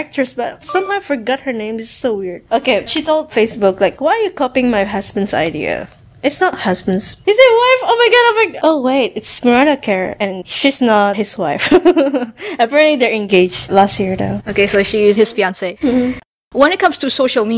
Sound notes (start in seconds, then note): 11.6 laughs